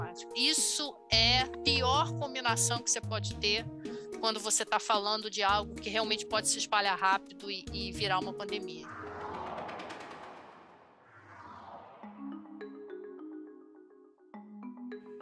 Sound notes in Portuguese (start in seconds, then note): 8.8 som de vento